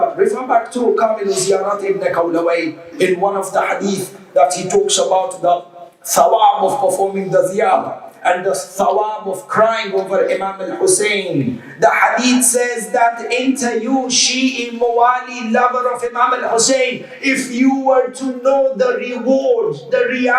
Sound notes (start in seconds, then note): 13.3 Arabic